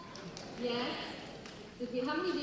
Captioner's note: audience chatting